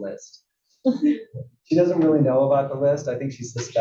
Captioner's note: laugh